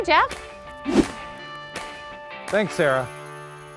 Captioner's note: swooshes